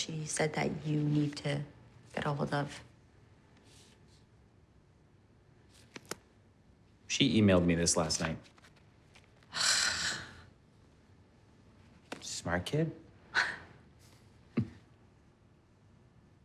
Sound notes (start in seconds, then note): 9.5 sighs; 14.5 chuckles